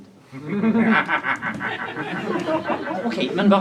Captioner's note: audience laughs